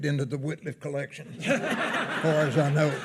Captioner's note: attendees laughing